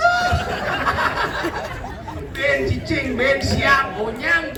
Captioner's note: laughs